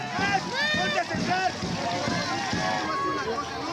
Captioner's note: crowd cheering